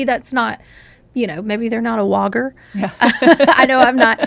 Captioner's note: laughs